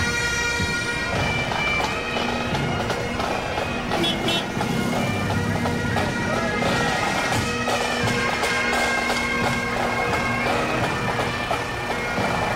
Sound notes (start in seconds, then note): 3.4 horn honking